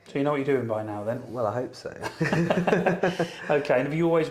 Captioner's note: laughs